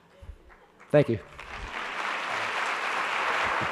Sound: applauding

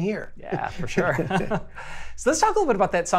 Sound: both laughing

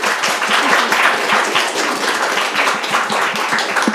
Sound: audience applauds

